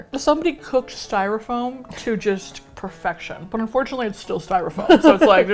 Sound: laughs

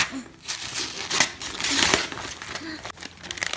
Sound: paper ripping

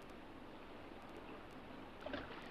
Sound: water splashes

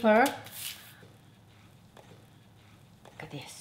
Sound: paper rustling

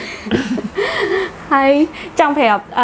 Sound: laughing

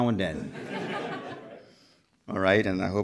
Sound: crowd laughs

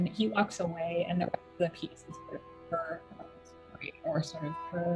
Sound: audio distortion

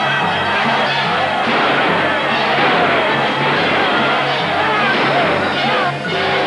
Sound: shouting; gunshots; shouting; train whistle blowing

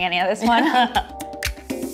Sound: laughs; soft music

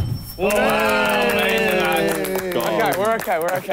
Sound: clapping

